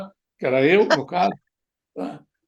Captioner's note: laughs